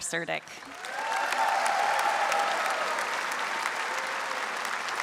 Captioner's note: audience cheers and applauds